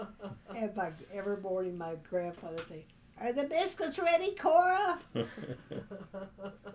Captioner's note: laughter